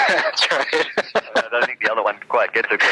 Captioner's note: laughs